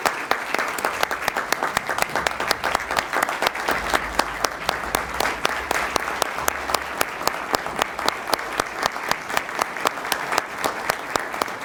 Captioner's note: applause